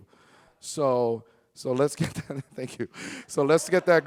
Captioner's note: chuckles